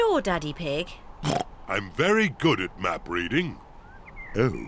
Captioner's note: oinks